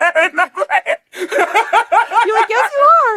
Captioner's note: laughs